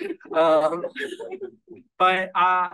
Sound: audience laughing

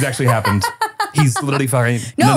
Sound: laughing

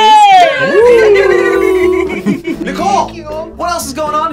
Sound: giggling

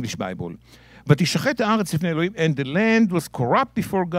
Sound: speaking in Hebrew

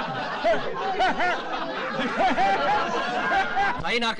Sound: laughing

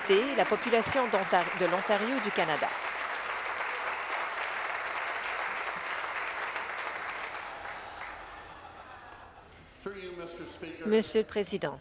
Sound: applause

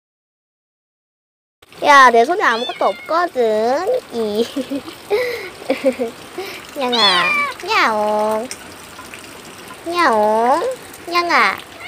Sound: meow

